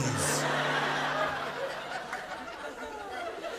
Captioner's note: laughter